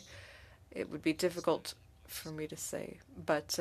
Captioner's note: speaking French